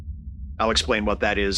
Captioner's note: tweeting sound